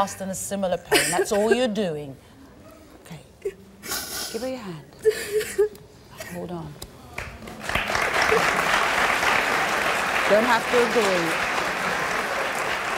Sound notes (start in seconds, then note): 7.1 audience claps